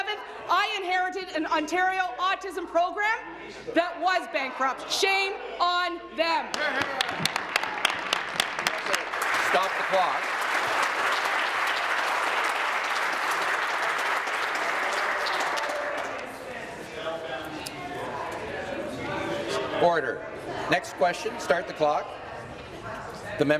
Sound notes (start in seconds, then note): 10.2 applause